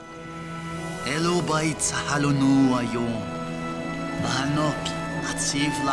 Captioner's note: Mago speaking in foreign language